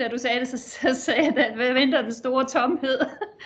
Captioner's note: laughing